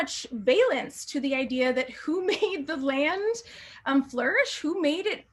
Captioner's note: laughter